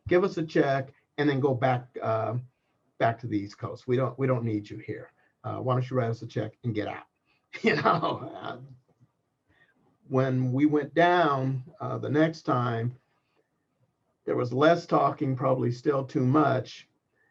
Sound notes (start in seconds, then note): 7.6 laugh